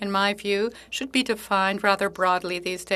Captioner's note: speaking French